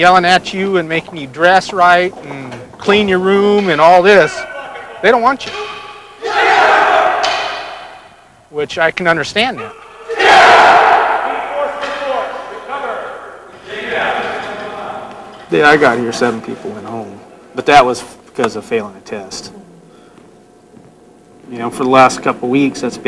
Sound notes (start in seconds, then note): 7.0 shouting